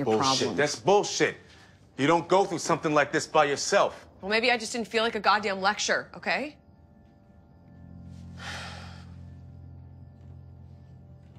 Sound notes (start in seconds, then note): 8.3 sighs